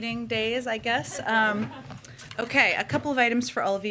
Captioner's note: laughter